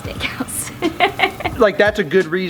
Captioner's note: laughs